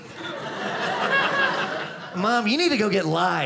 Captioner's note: audience laughing